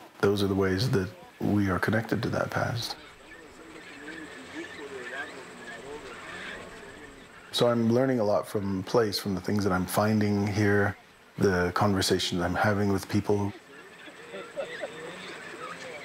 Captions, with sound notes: those are the ways that we are connected to that past. (machine whirring) So I'm learning a lot from place from the things that I'm finding here, the conversation I'm having with people.